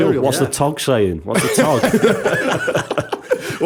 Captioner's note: laughter